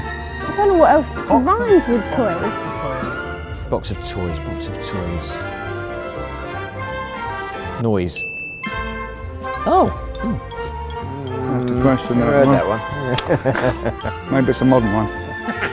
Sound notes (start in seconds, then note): 12.8 laughing; 15.4 laughing